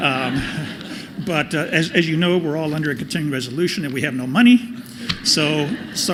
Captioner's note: laughter